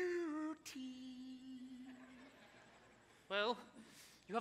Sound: audience laughs

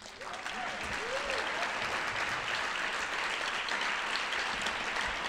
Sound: audience applauding

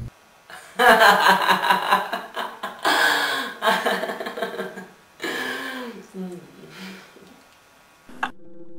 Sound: evil seductive laughter

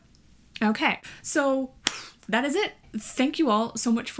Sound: claps hands

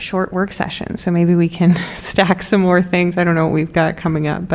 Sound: laughter

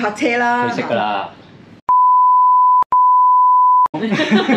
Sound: beep beep

